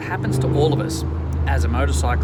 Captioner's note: motorcycle revving